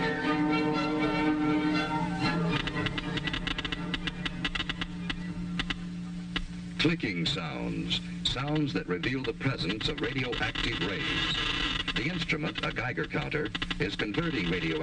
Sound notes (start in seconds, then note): 5.5 loud clicking